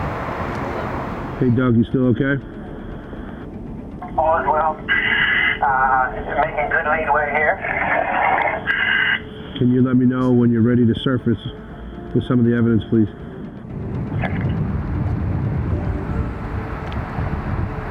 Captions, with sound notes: Hey Doug, you still okay? - All is well. Making good lead way here. (underwater breathing) - Can you let me know when you're ready to surface with some of the evidence please. (gentle piano music)